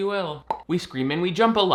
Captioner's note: popping sound